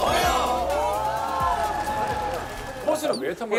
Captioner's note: cheers